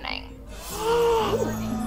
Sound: gasping

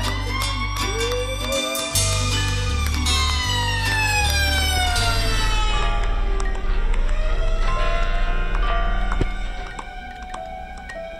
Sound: applause and cheering

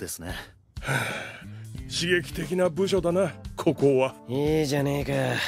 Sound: sigh

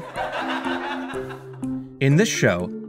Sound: laugh track

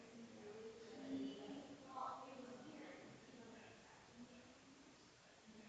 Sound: people chattering distantly continues

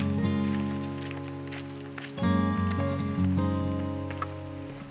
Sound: footsteps crunching

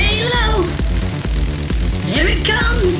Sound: crackling electricity

